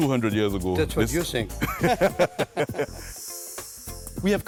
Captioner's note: both laughing